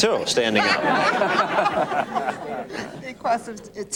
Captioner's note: laughter